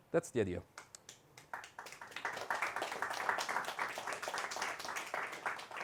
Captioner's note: audience clapping